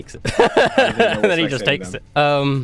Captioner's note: laughing